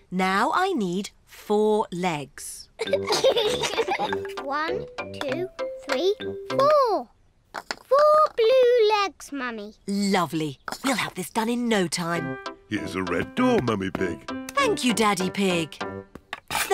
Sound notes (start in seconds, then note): 2.8 both giggle